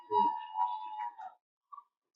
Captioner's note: cheering